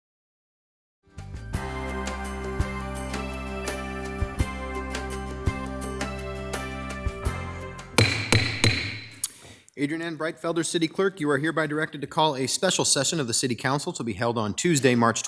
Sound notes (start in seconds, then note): 1.6 bright upbeat music; 8.0 gavel banging